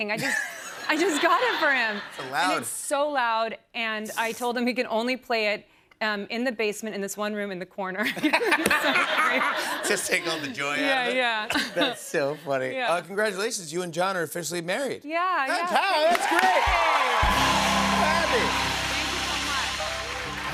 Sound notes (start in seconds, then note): 8.0 laughter